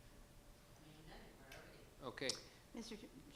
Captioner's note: speaks faintly